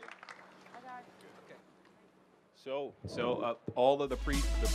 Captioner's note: applause